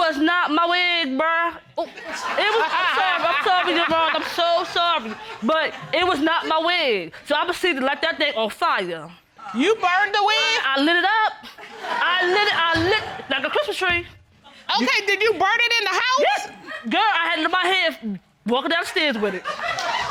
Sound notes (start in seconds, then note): 1.8 audience laugh; 11.5 audience laughing; 19.0 audience laughing